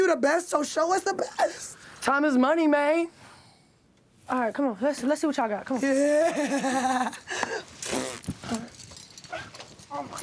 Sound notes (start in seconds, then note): 5.9 laughs; 7.8 blow raspberries